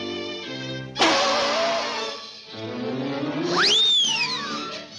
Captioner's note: nose pops; air squeals